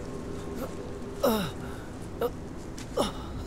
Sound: writhing in pain

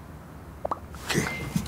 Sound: cell phone popping-bling sounds

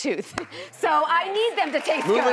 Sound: clapping

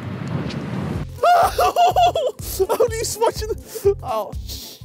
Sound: yells

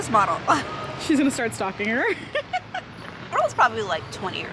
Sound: laughs

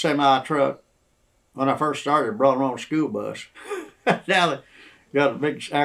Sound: laughs

